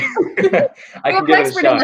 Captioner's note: laughing